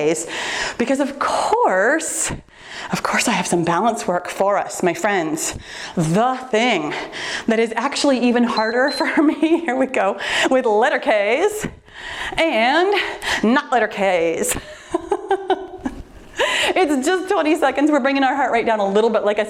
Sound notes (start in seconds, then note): 8.5 timer beeps; 13.8 laughs